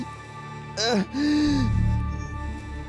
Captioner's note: moans